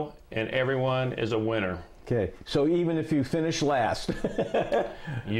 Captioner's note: laughs